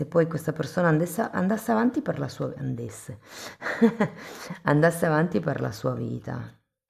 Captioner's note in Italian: risate